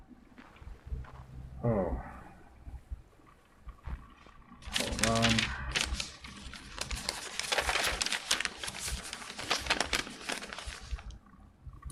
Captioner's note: rustling papers